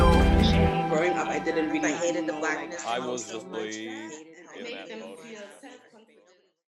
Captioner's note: swirling voices